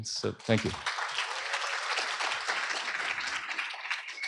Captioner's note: applause